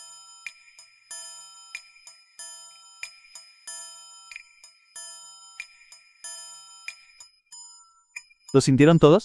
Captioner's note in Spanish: campana